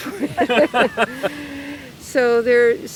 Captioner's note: laughing